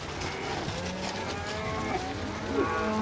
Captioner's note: cattle moo